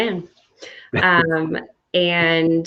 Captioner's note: chuckling